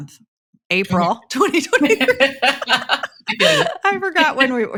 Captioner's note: laughs